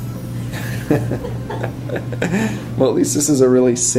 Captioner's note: laughter